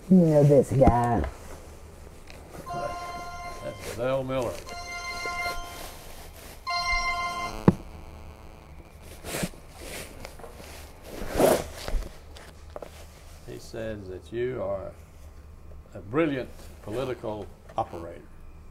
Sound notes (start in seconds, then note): 5.8 phone ringing